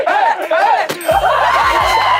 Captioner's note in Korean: банг